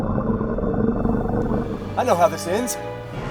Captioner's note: dinosaur growls